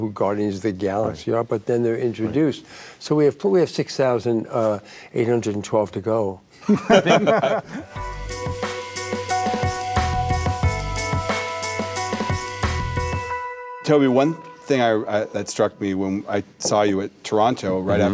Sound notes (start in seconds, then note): 6.6 group laughing; 7.6 mellow upbeat music